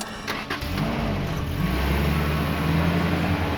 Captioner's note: engine revving